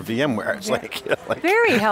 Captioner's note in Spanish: risas